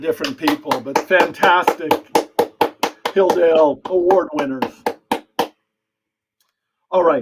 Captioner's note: applause